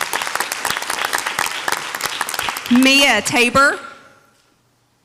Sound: audience applauds

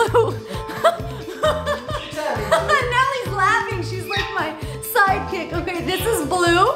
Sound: laughes

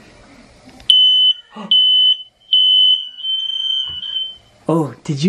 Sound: alarm beeps

